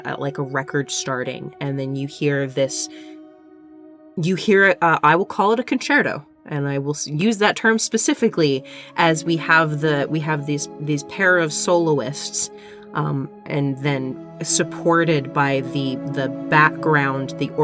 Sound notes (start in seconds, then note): none